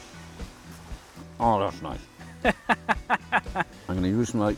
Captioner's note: laughs